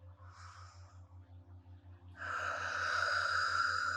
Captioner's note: inhaling; exhaling